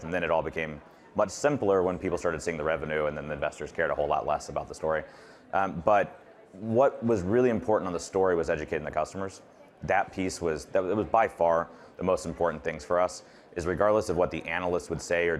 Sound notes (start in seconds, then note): none